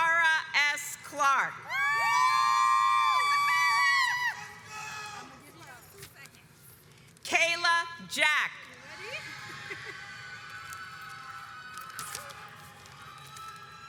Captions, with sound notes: Takara S. Clark (audience cheers) Kayla Jack